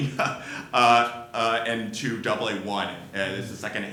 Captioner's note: laughs